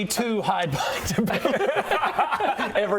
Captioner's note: scaredy-cat laughter